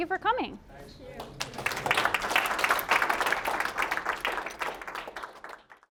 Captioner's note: applause